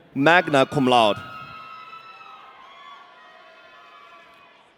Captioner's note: audience cheering